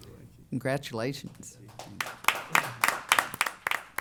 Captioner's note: applause